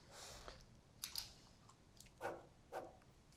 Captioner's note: pen clicks